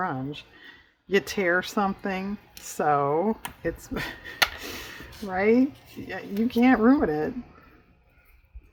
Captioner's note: laughs